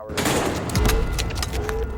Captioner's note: loud banging; alarm blaring